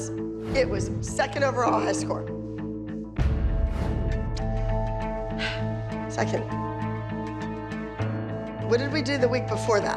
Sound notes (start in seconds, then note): 2.5 dramatic music; 5.3 sighs